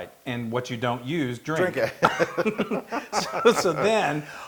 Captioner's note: laugh